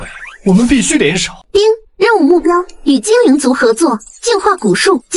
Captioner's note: ding!